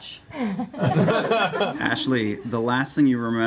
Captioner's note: laughter